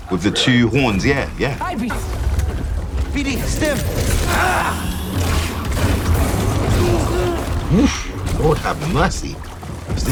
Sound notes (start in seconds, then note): 3.6 grunting; 4.4 lightsaber swinging